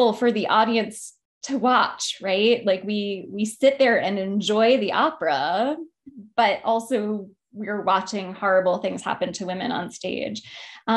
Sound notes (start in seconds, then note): none